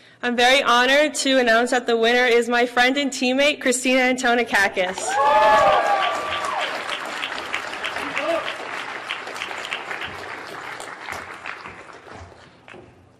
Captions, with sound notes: - I'm very honored to announce that the winner is my friend and teammate, Christina Antonakakis. (audience clapping) (audience cheering)